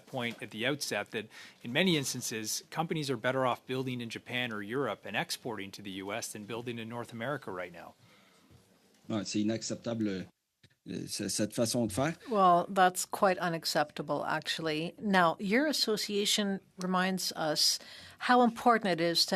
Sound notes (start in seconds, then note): 12.9 speaking French